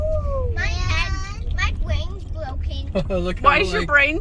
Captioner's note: children in background